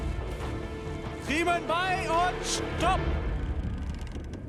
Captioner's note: speaking German